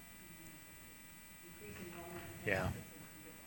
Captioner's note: speaking off mic